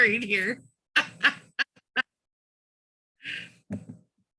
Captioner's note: laughing